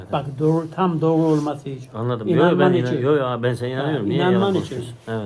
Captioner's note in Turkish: none